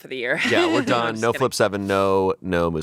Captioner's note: laughing